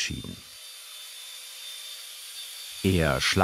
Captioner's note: harsh machine whirring